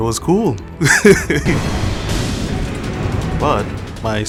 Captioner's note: laughs